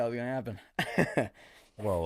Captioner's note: embarrassed chuckle